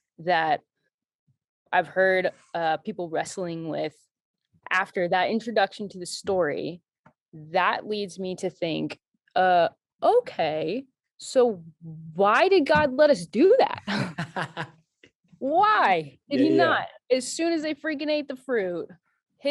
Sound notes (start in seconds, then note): 13.8 both laughing